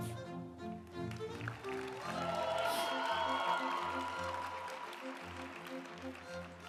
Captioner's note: uplifting music; group applauding